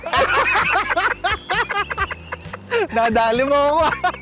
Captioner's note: both continue laughing